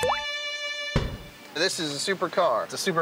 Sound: water droplet; violin music

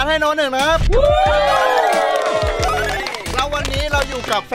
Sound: applauding

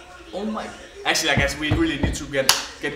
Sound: slaps couch

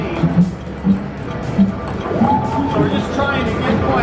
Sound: bouncing sound effects

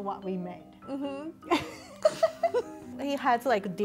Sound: both laughing

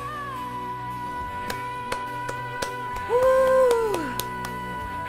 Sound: applause

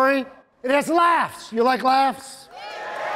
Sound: audience cheering

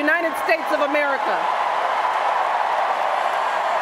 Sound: cheers, applause

